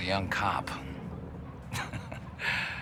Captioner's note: chuckles